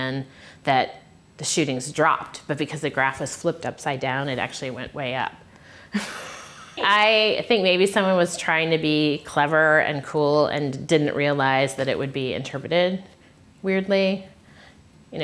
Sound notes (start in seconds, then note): 5.5 laughs